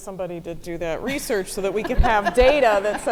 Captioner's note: audience laughing